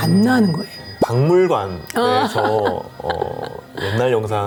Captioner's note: laughs